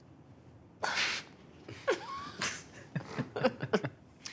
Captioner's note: all laughing